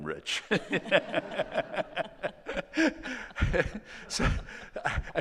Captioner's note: all laughing